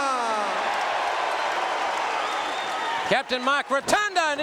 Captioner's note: audience cheering